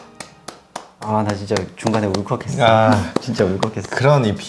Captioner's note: chuckles